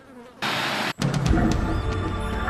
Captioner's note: animal growling softly